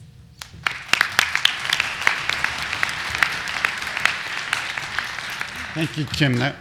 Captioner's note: applause